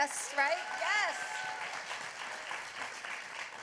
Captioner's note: applause